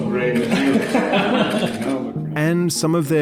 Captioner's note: laughing